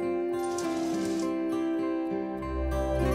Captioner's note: Elevator closing